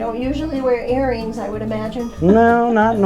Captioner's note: laughing